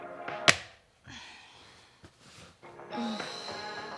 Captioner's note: sighs